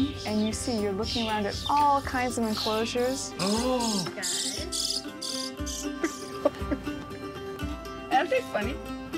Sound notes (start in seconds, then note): 3.4 baby birds chirping; 5.9 laughter